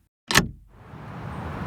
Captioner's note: door open